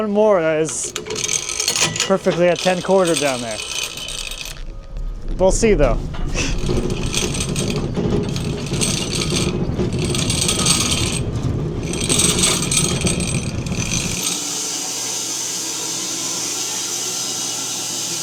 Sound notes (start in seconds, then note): 6.1 saw rumbles; 14.2 saw buzzes